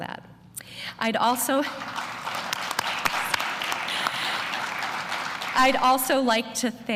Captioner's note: applause